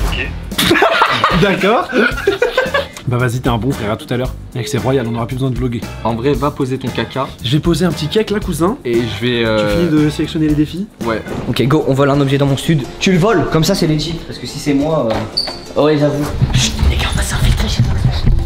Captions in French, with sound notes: - Ok *rire* - D'accord *rire* Bah vas-y, t’es un bon, frère À tout à l’heure Mec c’est royal, on n’aura plus besoin de vloguer - En vrai, va poser ton caca - J’vais poser un p’tit cake là cousin - Et j’vais... - Tu finis de sélectionner les défis - Ouais - Ok, go, on vole un objet dans mon stud' Tu voles, comme ça c'est legit Parce que si c'est moi... - Ouais, j’avoue Chut ! Les gars, on va s’infiltrer chez Inoxtag